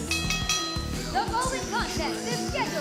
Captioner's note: bell ringing